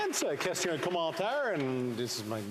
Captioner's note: applause